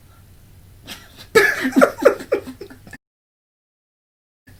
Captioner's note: laughter